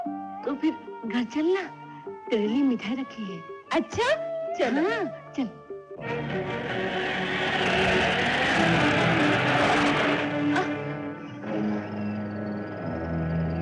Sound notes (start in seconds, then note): 6.0 Jeep Approaching